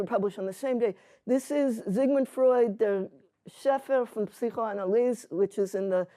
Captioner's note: hebrew